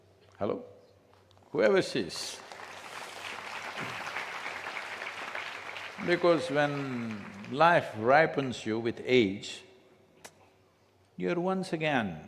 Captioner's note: applause